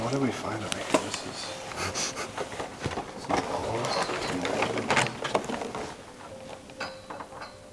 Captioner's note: humming theme song; singing song